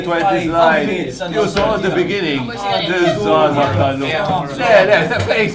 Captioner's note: all complaining